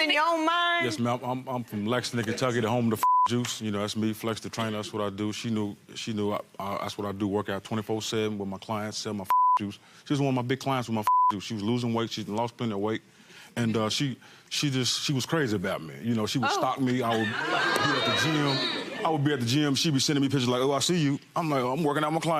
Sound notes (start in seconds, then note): 11.0 beep